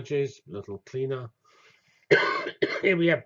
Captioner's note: cough